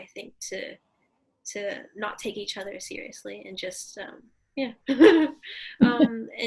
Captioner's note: laughs